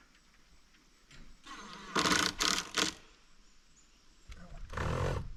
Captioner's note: wind blowing; wind blowing